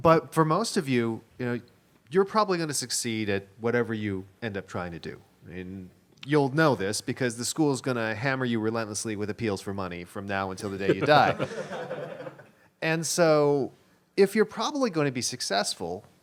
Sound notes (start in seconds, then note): 10.6 laughter